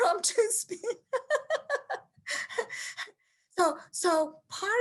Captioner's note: laughs